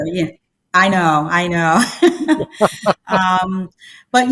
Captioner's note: laughs